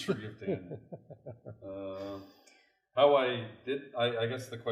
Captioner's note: laughs